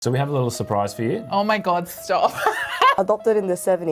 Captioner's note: laughs